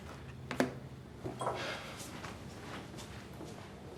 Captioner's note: cigarette pack thuds; footsteps departing